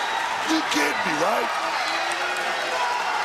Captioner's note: crowd cheers